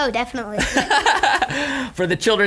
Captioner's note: laughing